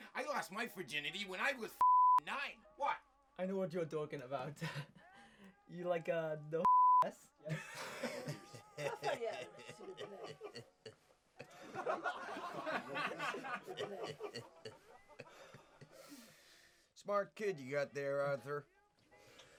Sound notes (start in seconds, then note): 4.4 laughs; 7.4 laughs; 11.4 group laughs